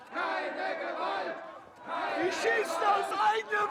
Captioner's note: chant